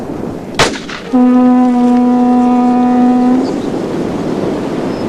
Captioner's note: sound of a gunshot and ship's horn